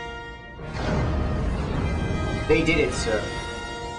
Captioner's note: explosion